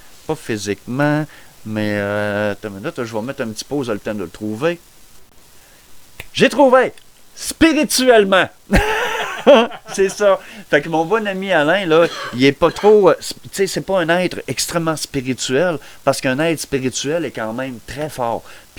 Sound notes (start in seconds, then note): 8.7 laughter